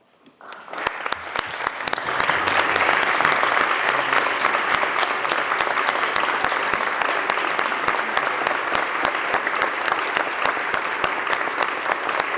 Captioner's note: applause